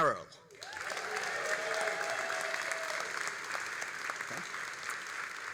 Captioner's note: all applauding and cheering